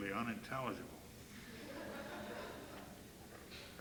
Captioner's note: laughter